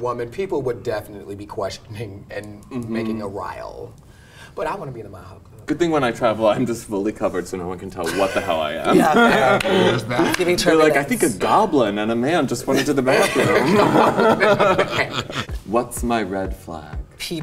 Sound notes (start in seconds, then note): 12.7 group laughs